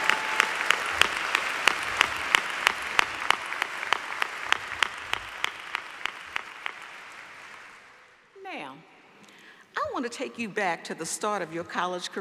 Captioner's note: applause